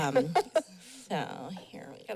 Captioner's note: laughing